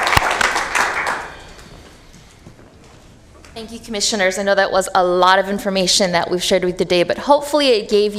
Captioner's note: applause